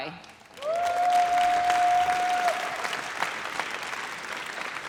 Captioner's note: audience cheers